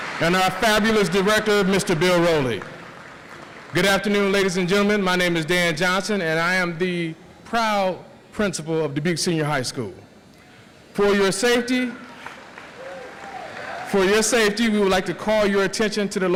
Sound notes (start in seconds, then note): 0.0 audience applauds; 12.0 audience applauds